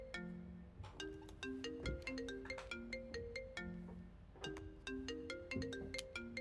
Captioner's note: mobile phone chimes